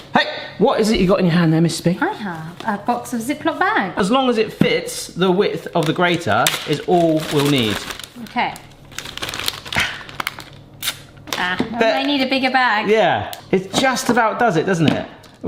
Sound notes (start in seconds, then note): 6.7 bag rustling